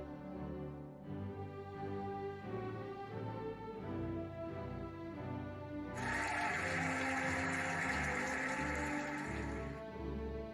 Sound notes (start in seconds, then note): 6.0 cheering and applauding